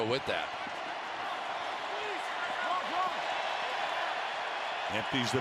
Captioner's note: crowd cheering